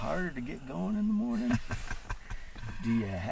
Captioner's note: laughing